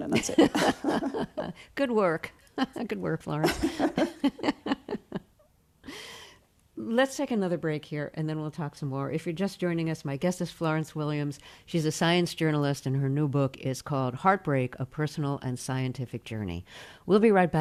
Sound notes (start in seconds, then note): 0.0 laughter; 3.4 laughter